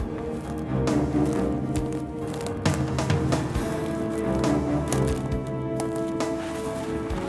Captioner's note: footsteps crunching; suspenseful music continues